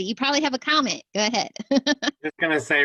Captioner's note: laughter